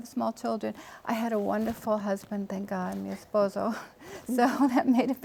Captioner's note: speaking Spanish